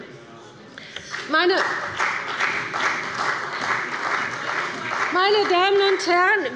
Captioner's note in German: Beifall bei der CDU und dem BÜNDNIS 90/DIE GRÜNEN